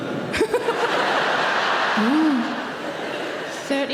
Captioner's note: audience laughing; laughing